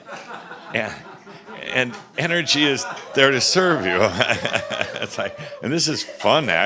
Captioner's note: Adamus chuckles and someone shouts “Woohoo!”